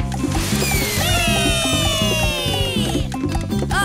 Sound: cheering

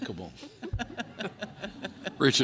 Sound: laughter

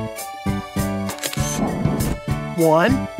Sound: SFX: Camera Shutter

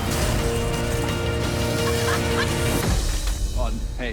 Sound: laughs, grunts

